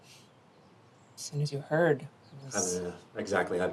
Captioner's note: scoffs